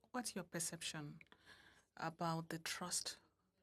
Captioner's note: speaking French